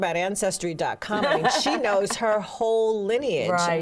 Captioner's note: laughs